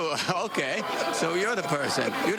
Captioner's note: laughter